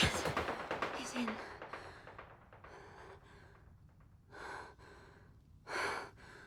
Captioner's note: breathing heavily